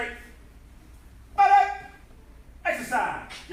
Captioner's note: enthusiastic shouting